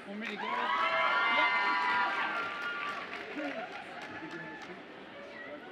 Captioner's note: audience applauds and cheers